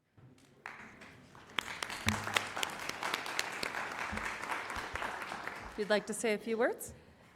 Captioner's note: applause